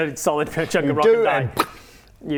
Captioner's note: pop